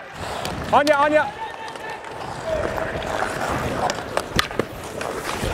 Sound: shouting to teammate

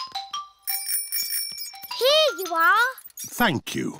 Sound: bell rings

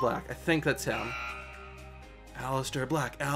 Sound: countdown timer buzzes; chanting

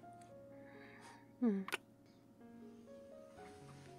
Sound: kiss

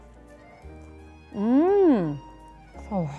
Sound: humming

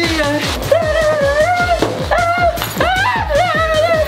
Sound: yelling

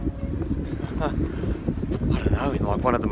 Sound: chuckling

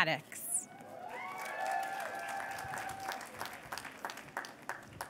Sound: cheers and applause

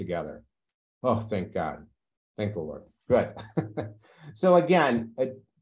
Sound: laughs

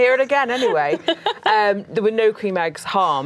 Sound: laughing

